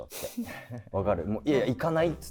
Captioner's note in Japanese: 一同：笑い